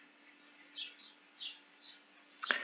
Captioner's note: chirp